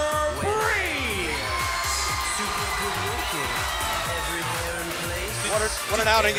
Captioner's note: crowd cheering